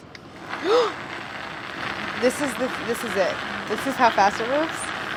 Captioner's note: gasps